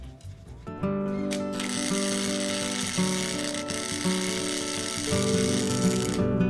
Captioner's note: gentle acoustic music; torch zapping